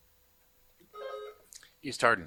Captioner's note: buzzer buzzing